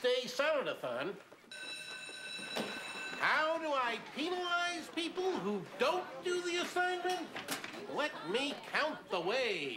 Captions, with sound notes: FOR THE BIG VALENTINE'S DAY SONNET-AHO-TN. ( bell ringi ng) HOW DO I PENALIZE PEOPLE WHO DON'T DO THE ASSIGNMENT?